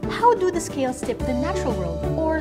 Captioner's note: none